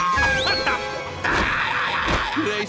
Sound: playing off-key; screaming

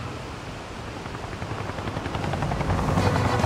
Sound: propeller whirring

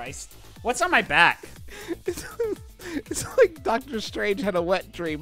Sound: giggling

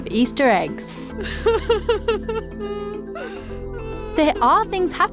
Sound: cries

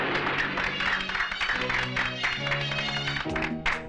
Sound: crowd Applauding

